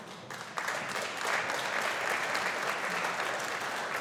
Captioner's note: audience applauding